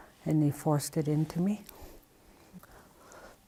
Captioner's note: she takes a deep sobbing breath